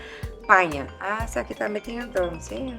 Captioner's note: phone rings